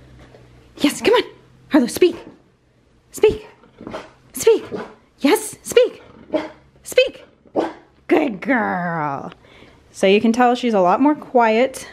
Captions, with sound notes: Yes, come on. Harlow speak. Speak, speak! Yes, speak! (dog quietly barks) Speak! (dog barks) Good girl. So you can tell she's a lot more quiet